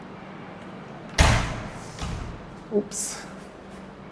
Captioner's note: door slams